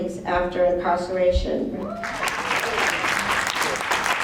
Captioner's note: applause